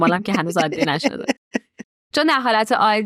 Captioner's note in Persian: خنده